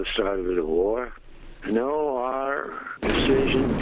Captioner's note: explosion booms